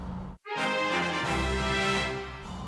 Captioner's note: Fire Emblem Awakening level up sound; Fire Emblem Three Houses level up sound